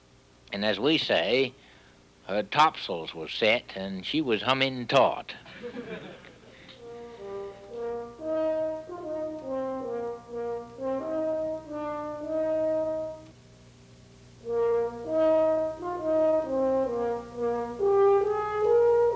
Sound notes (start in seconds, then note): 5.5 audience laughs; 6.8 gentle music